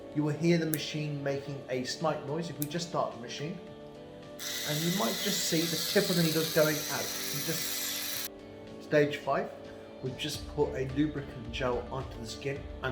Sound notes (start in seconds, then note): 7.4 gentle vibration